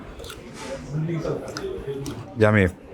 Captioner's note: teeth scrape